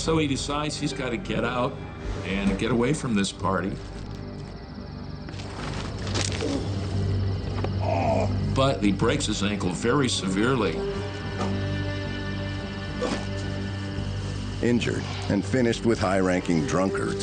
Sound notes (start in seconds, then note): 5.4 bone cracks; 7.8 Marion groans